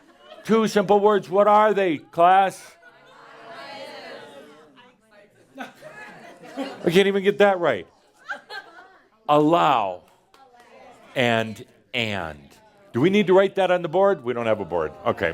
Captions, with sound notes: Two simple words. What are they, class? (audience shouts “I Am” and someone says “I Exist”) They can’t even get that right. Allow and and. Do we need to write that on the board? We don’t have a board.